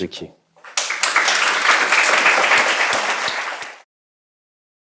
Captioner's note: audience applause